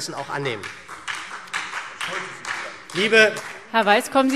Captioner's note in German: Beifall SPD